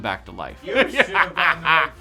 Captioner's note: laughing